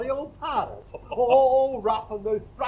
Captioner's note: Greg laughs